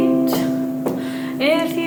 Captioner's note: feet stomping